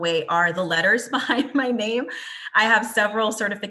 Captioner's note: chuckles